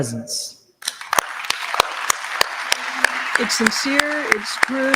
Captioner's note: audience applauds